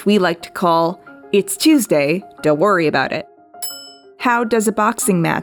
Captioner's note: bell Ding